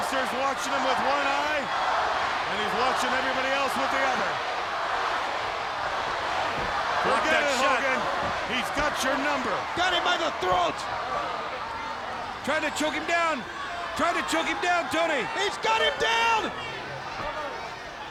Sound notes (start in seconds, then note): 4.9 crowd yelling